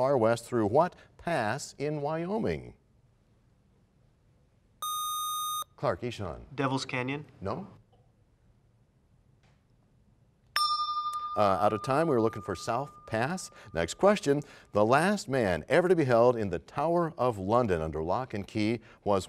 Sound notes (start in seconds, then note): 10.5 bell rings, time expires